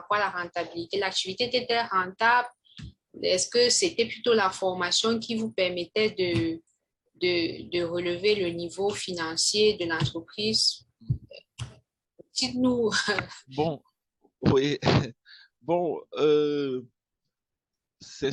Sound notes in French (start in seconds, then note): 14.5 rire